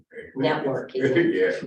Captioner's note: chuckles